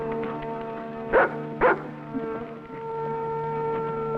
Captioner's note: barking